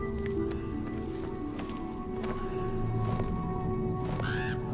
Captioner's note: bird squawking